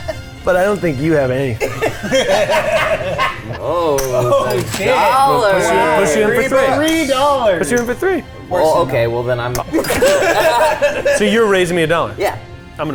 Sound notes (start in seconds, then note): 1.4 laughing; 4.0 chips clattering; 4.9 cash-register bell ringing; 9.6 all laughing